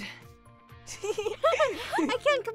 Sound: laughing

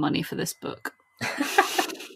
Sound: laughs

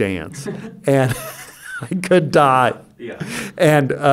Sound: he laughs

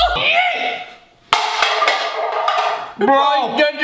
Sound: can clunking on the floor

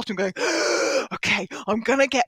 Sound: breathes deeply

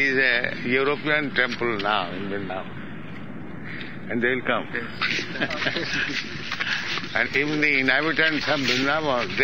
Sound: laughs

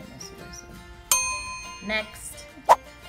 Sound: dinging

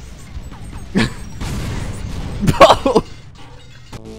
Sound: laughter

